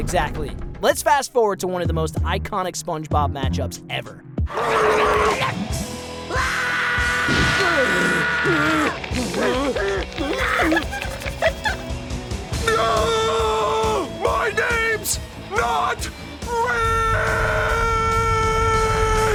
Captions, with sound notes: Let's fast forward to one of the most iconic SpongeBob match ups ever. [screaming] [grunting] No! My name's not Rick!